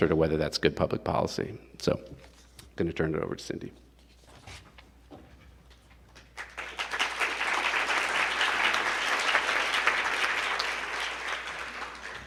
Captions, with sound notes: to whether that's good public policy, so gonna turn it over to Cindy. (attendees applauding)